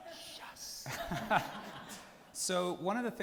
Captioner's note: people laughing